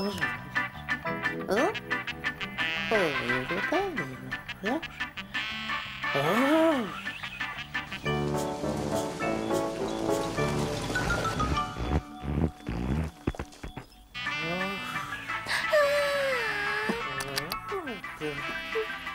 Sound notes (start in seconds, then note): 0.2 music playing on tv; 2.8 mumbles; 12.9 music playing on tv; 15.4 yawns